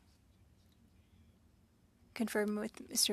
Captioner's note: speaking French